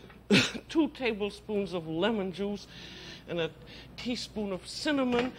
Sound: coughs

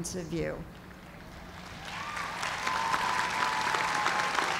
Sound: cheers and applause

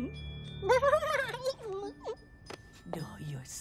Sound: giggling

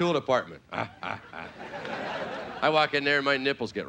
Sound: playful grunting

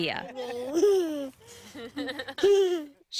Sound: giggles

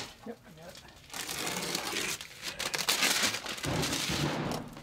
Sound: paper tearing

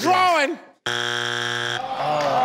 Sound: buzzes

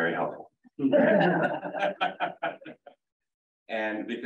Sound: laughter

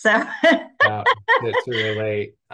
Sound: laughter

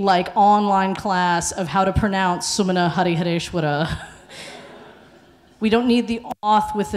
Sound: laughs

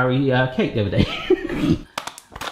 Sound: laughs

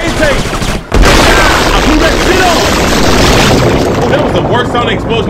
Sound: game crackles loudly

